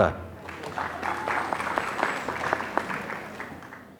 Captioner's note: applause